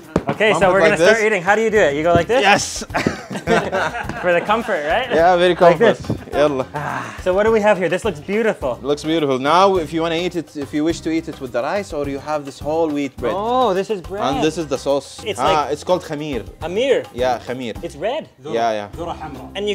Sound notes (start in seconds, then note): 4.1 all laughing